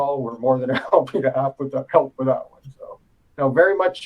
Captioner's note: laugh